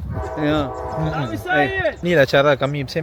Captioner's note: speaking Arabic